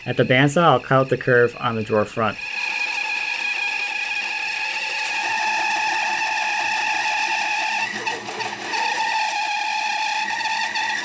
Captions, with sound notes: At the bandsaw, I'll cut the curve on the drawer front. (machine whirs)